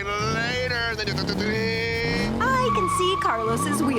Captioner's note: imitates engine revving